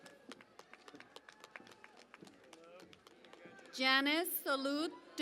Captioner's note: cheering and Applause